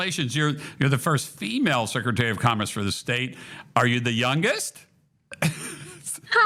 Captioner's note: laughs